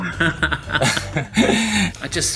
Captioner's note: both chuckling